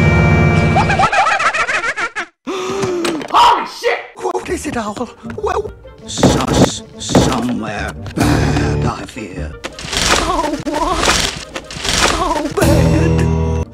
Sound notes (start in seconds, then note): 0.7 Majora's Mask laughter; 2.4 gasp